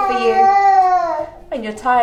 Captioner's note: coos